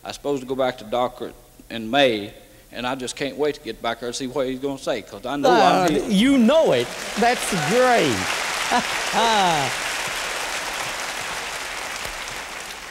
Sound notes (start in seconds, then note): 7.2 applause; 8.6 laughter